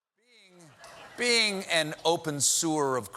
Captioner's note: laughter